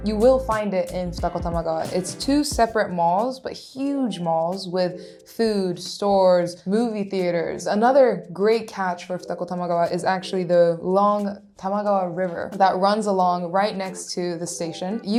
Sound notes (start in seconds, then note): none